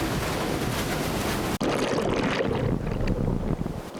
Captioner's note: water rushing